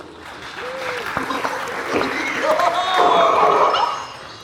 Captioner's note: audience clapping